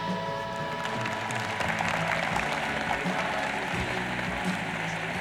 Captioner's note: tense music; audience applauds